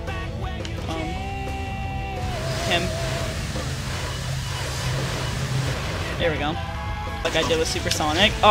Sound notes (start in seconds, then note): 2.2 gusting sounds